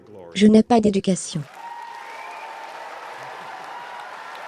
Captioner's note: applauding